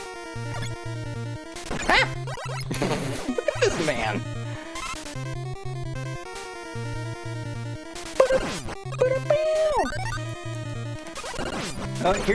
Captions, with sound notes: Ack! (laughs) Look at this man. (hums along to BGM)